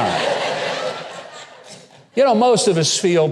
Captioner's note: audience laughing